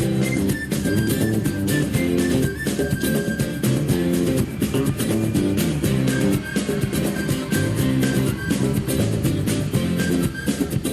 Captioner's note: whistling